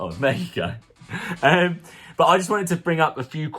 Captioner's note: chuckles